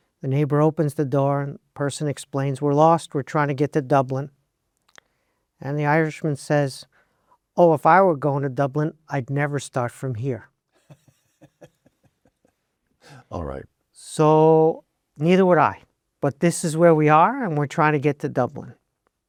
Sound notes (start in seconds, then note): 10.8 laughs